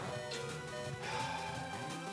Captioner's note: sighs